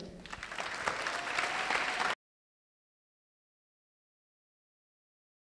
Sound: applause

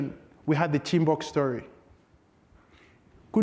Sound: speaks foreign language

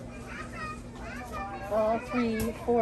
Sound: crowd chattering

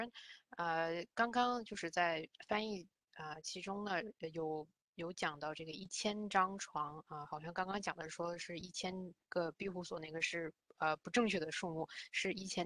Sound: speaks in Mandarin

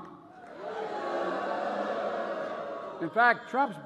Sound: participants booing

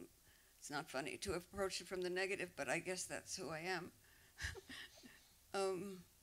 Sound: laughs

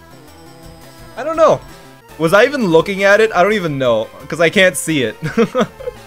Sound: laughs

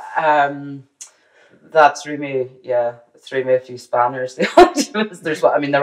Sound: laughs

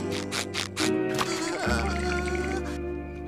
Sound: shivering

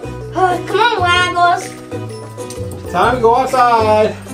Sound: sighs

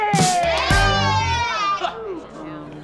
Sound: cheering

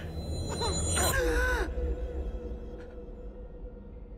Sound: high pitched ringing; Nikki gasping

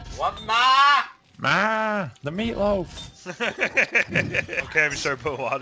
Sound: laughs

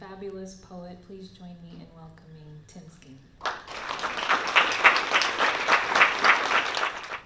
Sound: applause

